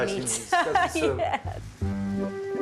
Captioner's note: chuckles